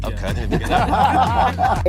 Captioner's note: laughing